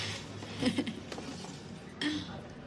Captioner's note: laughs